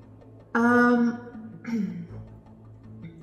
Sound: clears throat

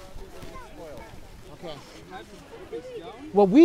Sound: snowboarders chattering

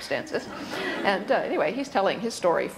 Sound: audience laughter

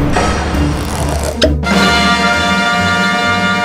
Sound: rail pops; triumphant fanfare

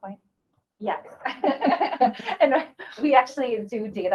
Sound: laughing

